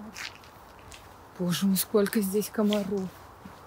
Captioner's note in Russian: очень много звуков из леса